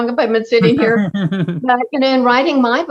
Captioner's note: laughs